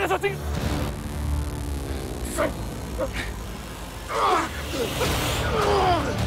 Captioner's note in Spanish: Gritos y quejidos